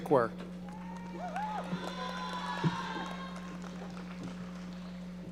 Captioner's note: audience applauding